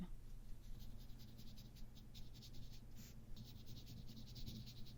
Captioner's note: fast scratchy brush strokes